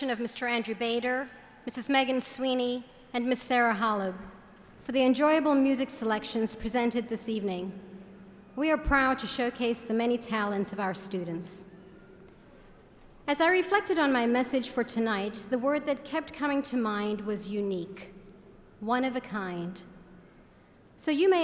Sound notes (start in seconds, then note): none